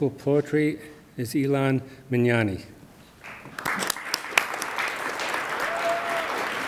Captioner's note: attendees applaud